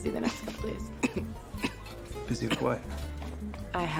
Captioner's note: Winston snickering